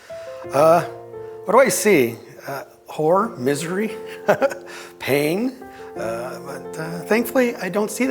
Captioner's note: laugh